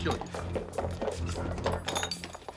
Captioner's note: objects clattering